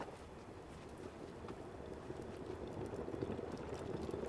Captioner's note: water boiling